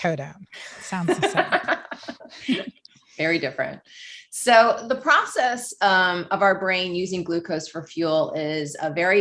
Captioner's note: laughs